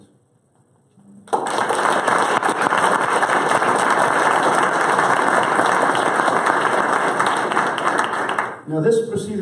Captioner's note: applause